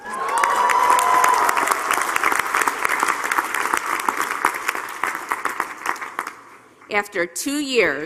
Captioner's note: applause